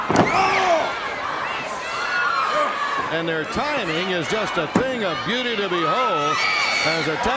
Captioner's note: crowd cheering